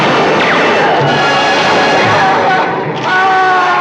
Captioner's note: screaming